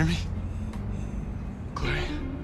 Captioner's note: shallow breathing